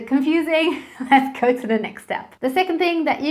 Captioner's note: chuckles